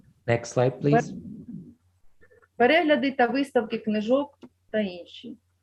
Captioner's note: foreign Language